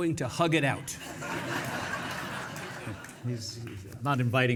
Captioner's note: audience laughing